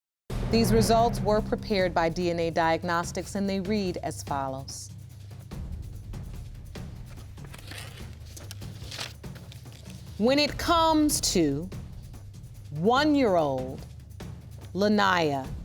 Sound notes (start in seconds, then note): none